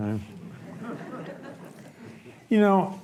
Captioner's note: audience laughs